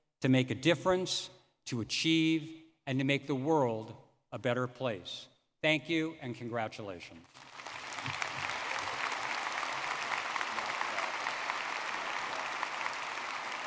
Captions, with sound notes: to make a difference, to achieve, and to make the world a better place. Thank you, and congratulations. (audience clapping)